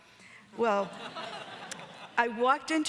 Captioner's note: audience laughing